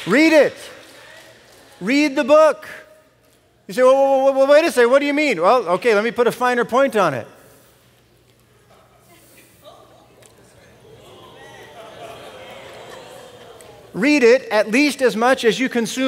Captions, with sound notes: Read it. Read the book. You say, "W-W-W-Wait a second. What do you mean?" Well, okay, let me put a finer point on it. [ Congregation murmuring ] Read it at least as much as